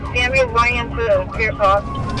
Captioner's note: radio chatter